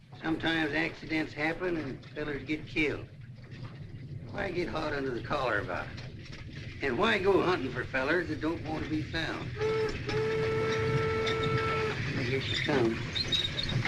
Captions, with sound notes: sometimes accidents happen and fellas get killed. Why get hot under the collar about it? And why go huntin' for fellas that don't want to be found? [ TRAIN HORN BLARING ] Here he comes.